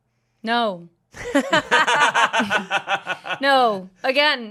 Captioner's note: laugh